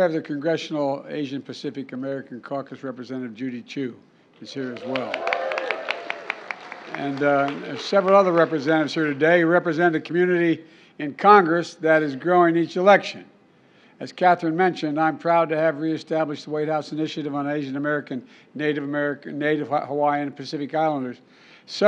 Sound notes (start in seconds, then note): 4.6 applause